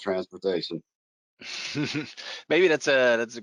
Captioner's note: chuckles